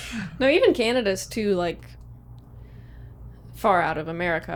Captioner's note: laughs